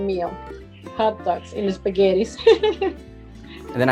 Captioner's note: laugh